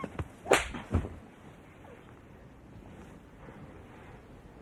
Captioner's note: hand claps face